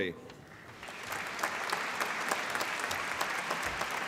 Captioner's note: applause